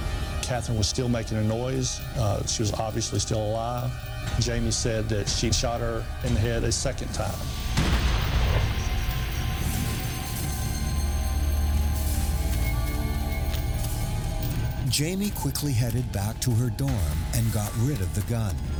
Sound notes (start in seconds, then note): 7.6 gunshot booming; 9.6 ominous music